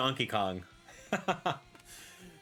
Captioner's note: laughs